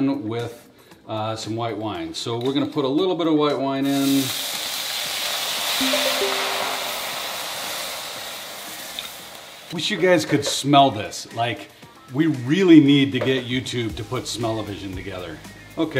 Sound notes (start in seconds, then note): 3.9 wine sizzling; 5.8 graphic twinkling